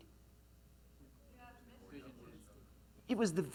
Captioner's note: audience mumbling